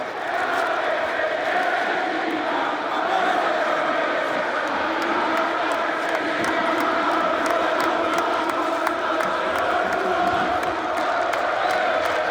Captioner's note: crowd Noise